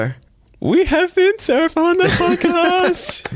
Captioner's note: high-pitched voice